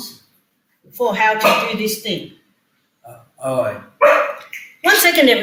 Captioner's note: dog noise in the background